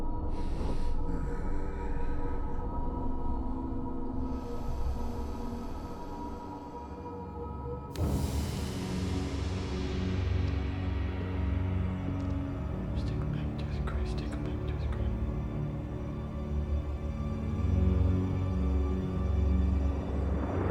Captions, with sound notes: (ghoul breathes heavily) (eerie music) - Let's take him back to his grave, take him back to his grave. (foreboding music)